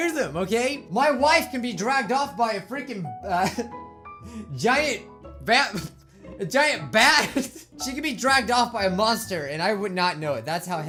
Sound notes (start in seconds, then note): 5.9 chuckles